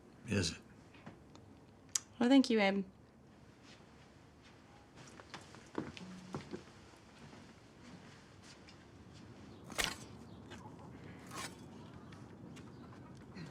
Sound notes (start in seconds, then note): 9.7 shovel clatters